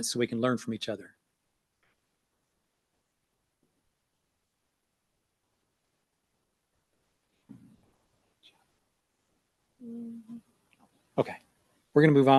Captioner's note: silence